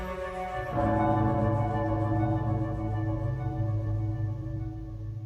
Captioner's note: bell Chime